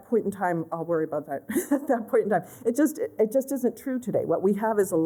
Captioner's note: laughter